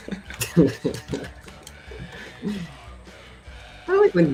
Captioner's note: laughter